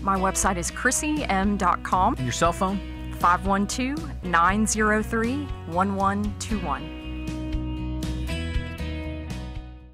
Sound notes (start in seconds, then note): 2.2 voiceover; 7.3 light guitar music